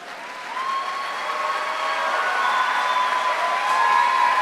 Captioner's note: applause; cheering